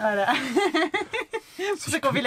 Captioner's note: laughs